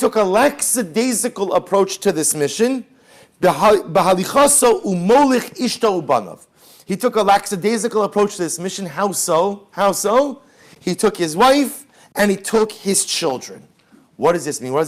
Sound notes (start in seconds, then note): 4.0 Hebrew